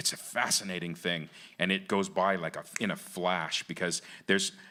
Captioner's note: snaps fingers